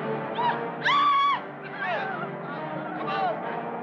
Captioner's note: woman screams